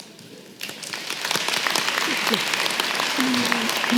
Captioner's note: applause